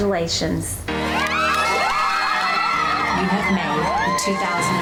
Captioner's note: women cheering